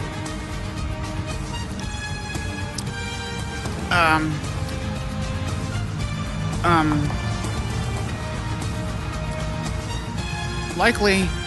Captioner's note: stammers